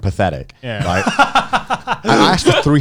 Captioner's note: laughing